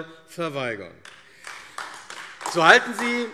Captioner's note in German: Beifall AfD